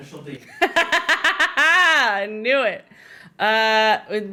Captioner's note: laughing